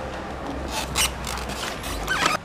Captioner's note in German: Quietschen